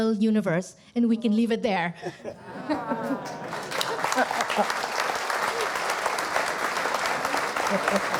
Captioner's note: APPLAUSE and LAUGHTER